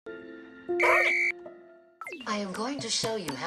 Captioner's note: tone beeping